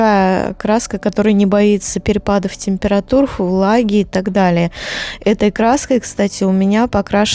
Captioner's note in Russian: тяжело вздыхает